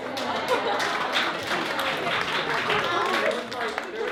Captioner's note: applause